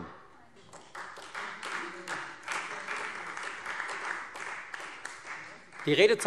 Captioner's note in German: Beifall Freie Demokraten - Zurufe BÜNDNIS 90/DIE GRÜNEN